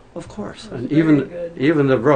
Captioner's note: voiceover